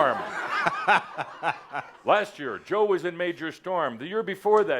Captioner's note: laughter